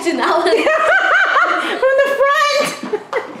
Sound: laughter

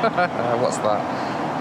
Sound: laughing

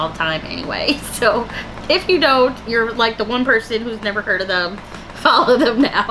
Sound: laughter

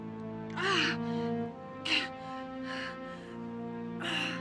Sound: Alex groaning

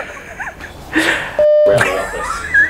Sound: continues laughing; beeping noise; giggling

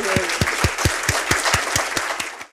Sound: audience applauds

